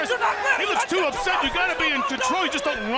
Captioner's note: crowd cheering